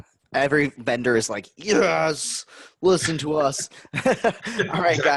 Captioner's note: laughs